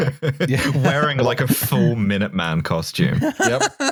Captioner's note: laughter; laughs